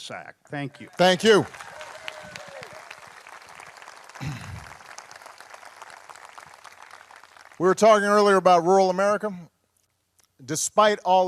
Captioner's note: applause